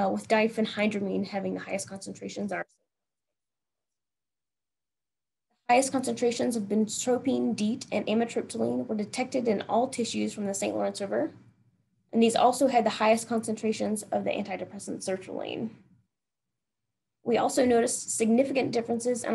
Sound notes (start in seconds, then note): 3.0 audio cuts off